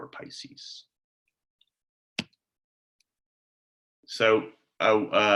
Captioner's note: slience